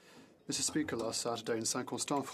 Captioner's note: speaking in French